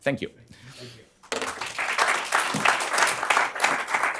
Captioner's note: applause